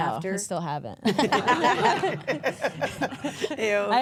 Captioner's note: everyone laughs; laughs